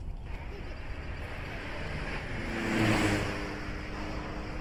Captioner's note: engine rumbling